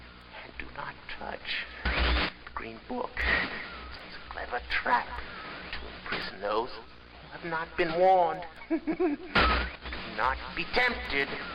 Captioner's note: crazy laughter